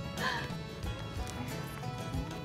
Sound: laughs

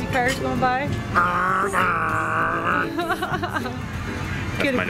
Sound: imitating car motor

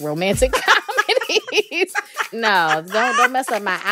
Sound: laughter

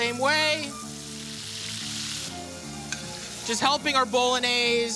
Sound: sizzling

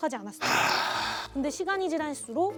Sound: deep sigh

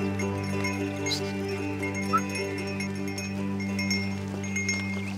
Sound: cattle bells clanging

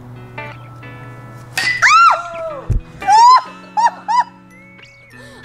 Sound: bat clangs; mom yelps in surprise

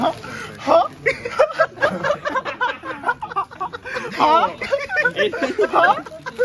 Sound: laughs

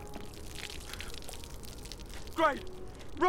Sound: water hitting ground

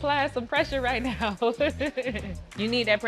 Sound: chuckles

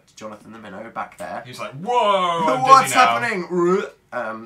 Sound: weird teleport noise

